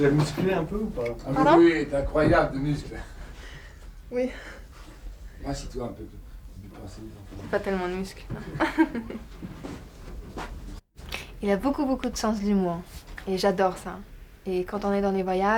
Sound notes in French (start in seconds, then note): 8.3 rires